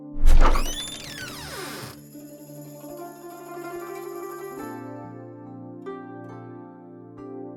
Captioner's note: the sound of opening the wooden door